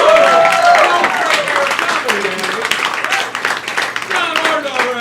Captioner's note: crowd applauding and cheering